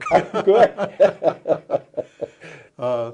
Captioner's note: laughter